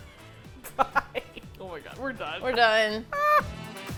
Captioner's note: laughing; upbeat outro music